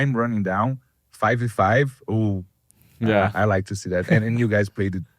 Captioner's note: laughs